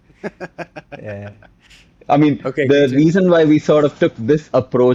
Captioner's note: laughter